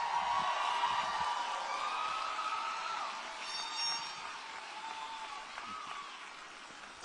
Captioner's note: applause and Cheering